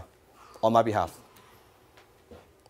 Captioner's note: gasping